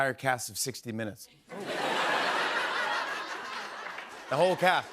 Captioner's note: laughter